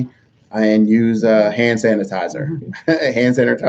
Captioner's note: laughs